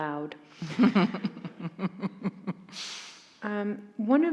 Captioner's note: chuckles